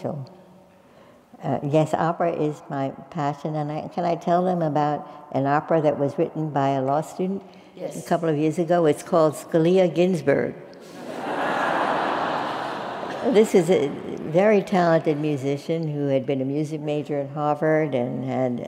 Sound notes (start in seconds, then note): 10.9 laugh